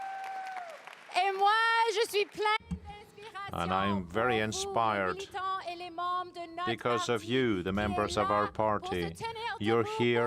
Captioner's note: cheering and applause